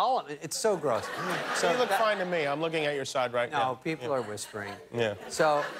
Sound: laughter

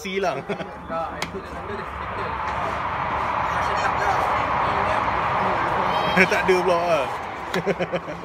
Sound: high speed train passing through

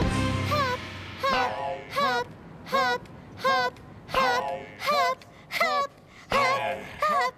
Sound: chanting

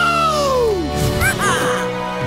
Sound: squawking

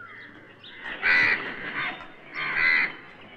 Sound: crow Sound

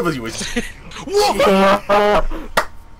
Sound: partially panic'd partially relieved noise

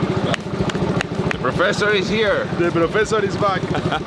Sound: in English; laughs

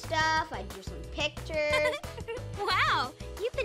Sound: giggles

